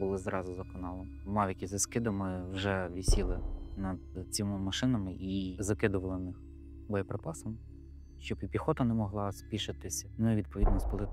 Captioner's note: drone